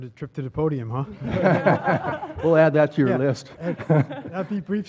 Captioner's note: laugh